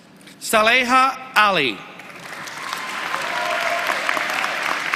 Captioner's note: applause